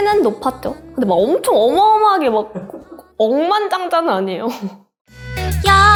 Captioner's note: laugh